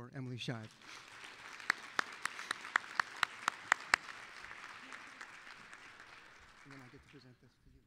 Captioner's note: applause